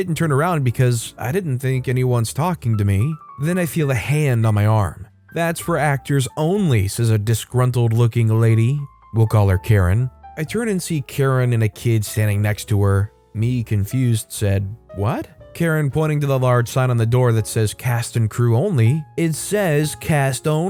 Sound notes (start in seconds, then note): 15.0 confused